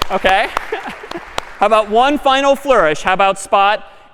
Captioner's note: می خندد